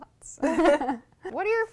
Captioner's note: laughter